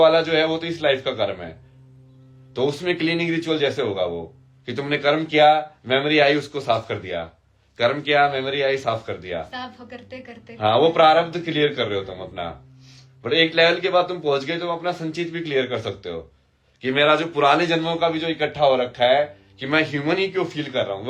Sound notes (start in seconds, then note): none